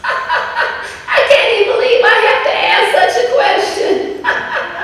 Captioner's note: laughter